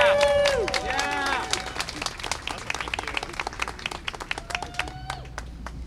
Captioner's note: cheering and applause